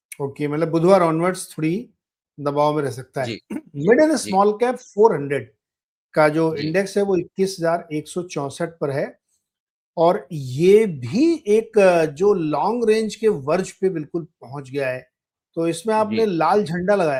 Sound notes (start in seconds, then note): 3.3 clearing throat